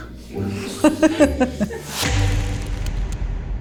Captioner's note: laughing